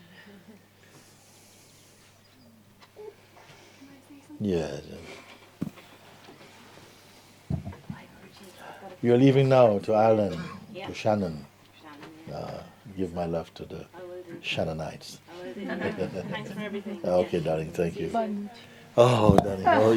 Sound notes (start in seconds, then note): 15.5 laughter